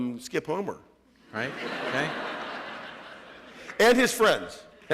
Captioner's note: laughter